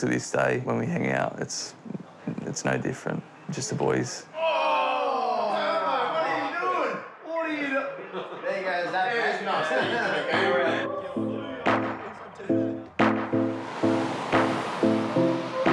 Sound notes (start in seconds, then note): 8.0 overlapping chatter, laughter; 12.8 relaxed electronic music